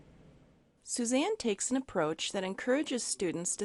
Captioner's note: voiceover